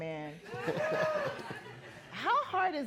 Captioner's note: laughing